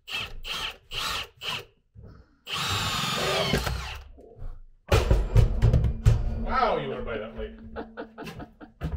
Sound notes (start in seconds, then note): 4.9 loud thud